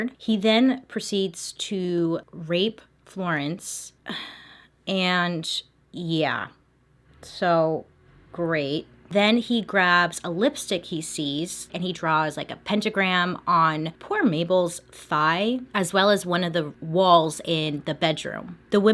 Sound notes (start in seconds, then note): 4.1 sighing